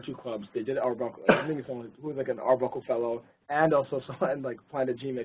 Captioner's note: laugh